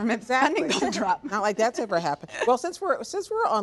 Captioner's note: laughs